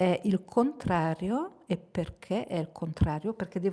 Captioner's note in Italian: none